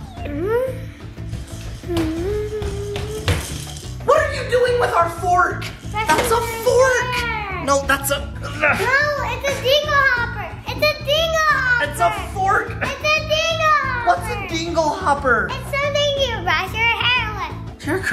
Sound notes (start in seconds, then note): 0.2 humming; 8.7 grunts